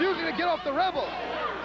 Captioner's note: crowd cheering